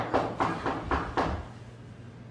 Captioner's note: knocking